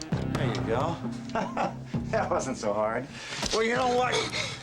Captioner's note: laughs